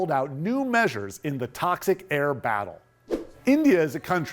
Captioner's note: screen whooshing